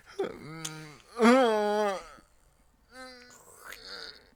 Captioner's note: groaning